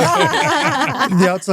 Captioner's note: laughing